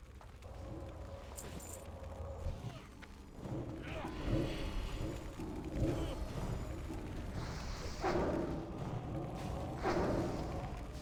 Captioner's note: growling